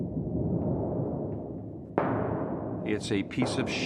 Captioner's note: low rumbling; rumbling